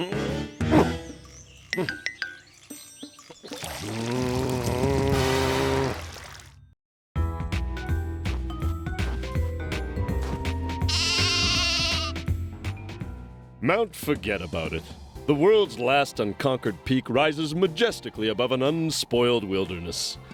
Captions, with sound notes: (grunting) (groaning) (bleats) MOUNT FORGET ABOUT IT. THE WORLD'S LAST UNCONQUERED PEAK RISES MAJESTICALLY ABOVE AN UNSPOILED WILDERNESS.